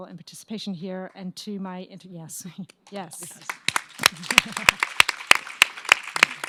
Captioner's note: audience applauds